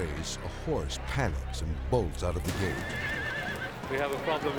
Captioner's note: horse neighing